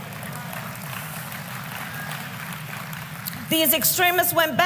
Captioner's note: applause